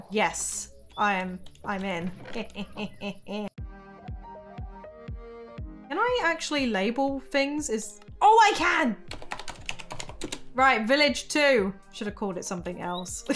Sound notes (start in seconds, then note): 1.9 laughs; 3.6 upbeat music; 9.1 keyboard clacking